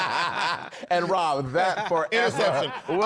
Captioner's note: laughter